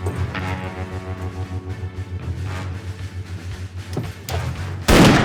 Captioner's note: gunshots